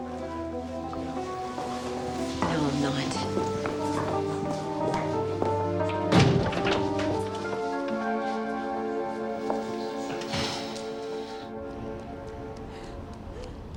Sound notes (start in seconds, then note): 9.9 sighs; 11.3 kerry panting